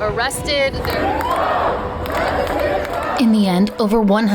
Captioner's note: chanting